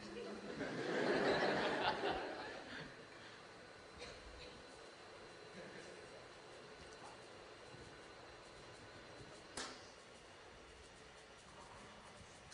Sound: laughter; switch clicks

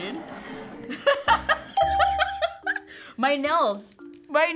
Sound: laughs

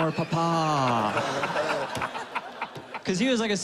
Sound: laughing

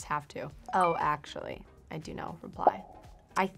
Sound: chiming

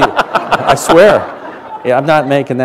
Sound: laughter

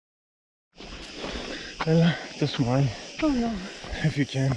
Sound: heavy breathing

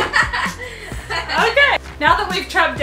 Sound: kids laughing

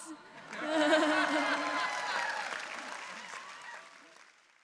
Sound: all cheering

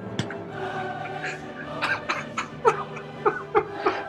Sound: giggling

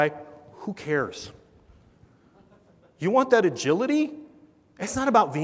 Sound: laugh

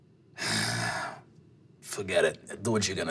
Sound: sighs

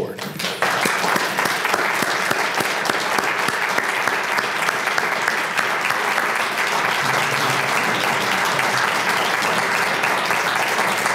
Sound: applause

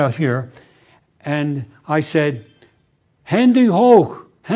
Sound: german

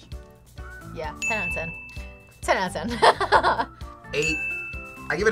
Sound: laughs

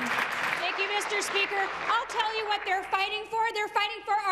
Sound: applause

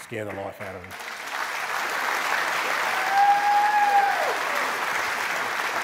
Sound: cheers and applause

